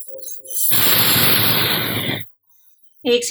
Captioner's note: whistling